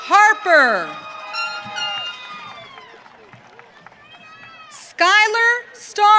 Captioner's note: audience cheering